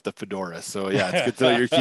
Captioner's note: laughs